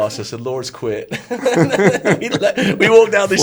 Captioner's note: all laugh